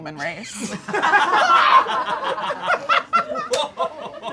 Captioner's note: audience laughing